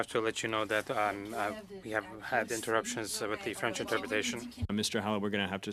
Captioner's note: speaking French